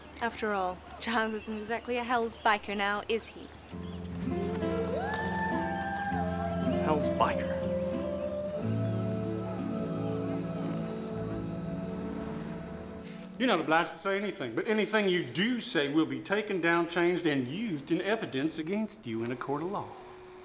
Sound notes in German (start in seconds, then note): 4.4 mystische Musik; 11.9 Automotor summt